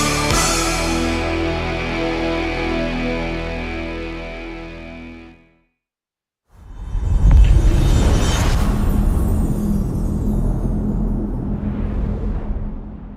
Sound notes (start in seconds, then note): 0.0 dramatic music; 7.2 dramatic sound